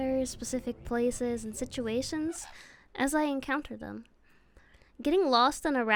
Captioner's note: conure noise